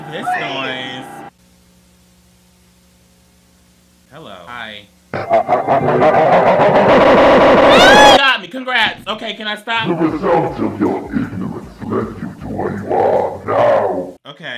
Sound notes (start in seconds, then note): 5.1 distorted cackling; 8.0 screeches